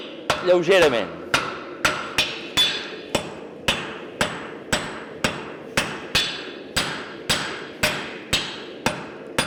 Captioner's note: sharp metallic hammering